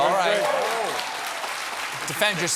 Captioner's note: applause